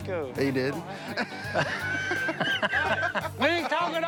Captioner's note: laughter